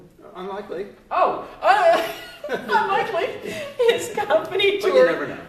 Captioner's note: laughs